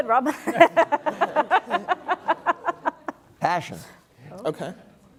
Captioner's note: laugh